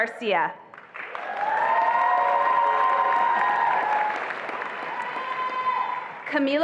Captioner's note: attendees applauding and cheering